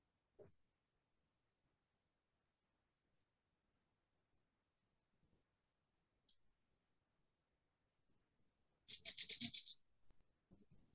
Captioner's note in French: silence